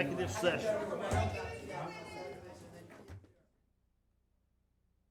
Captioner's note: group murmuring